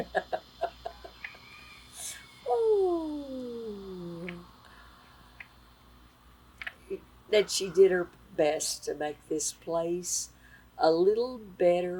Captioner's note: laughter